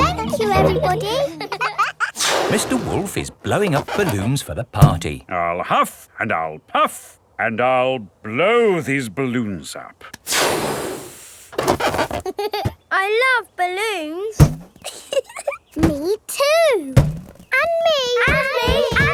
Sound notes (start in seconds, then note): 14.8 chuckles